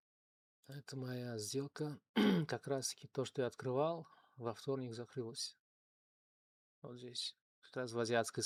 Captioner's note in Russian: откашливается